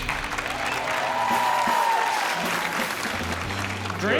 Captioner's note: cheering